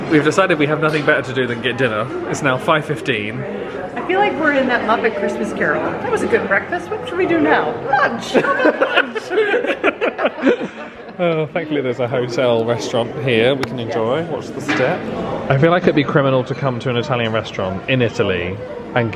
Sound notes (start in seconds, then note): 8.3 laughing